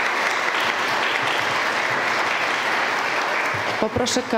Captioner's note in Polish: oklaski